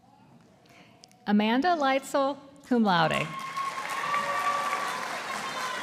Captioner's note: audience applauding